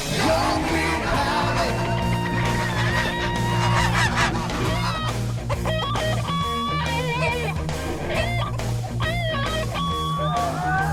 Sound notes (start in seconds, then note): 3.3 geese hiss and honk; 6.0 guitar solo